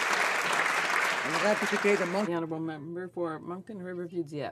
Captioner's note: applause